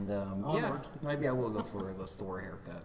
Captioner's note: laughing